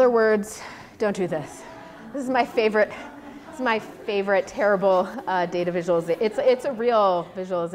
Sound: audience reacts

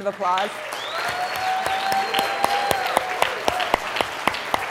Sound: applause

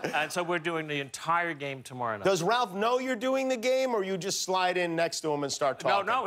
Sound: laughter

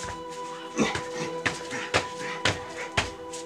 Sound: grunts

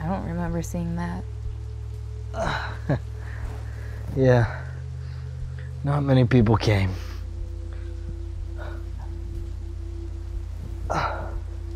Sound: chuckling

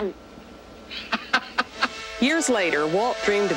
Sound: Walt laughing

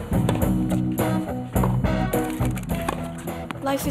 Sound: upbeat music; tennis ball smacking

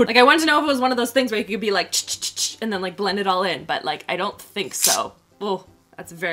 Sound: chh chh chh chh

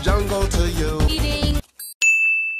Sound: ding

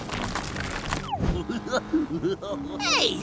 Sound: laughing

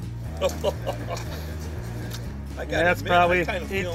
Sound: laughing

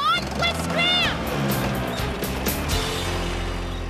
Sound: engines Rev

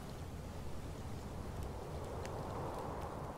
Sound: wind blowing

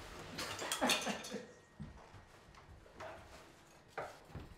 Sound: laughs

